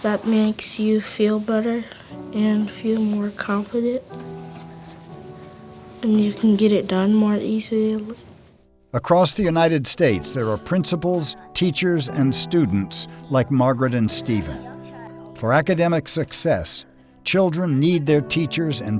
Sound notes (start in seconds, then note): 9.0 voiceover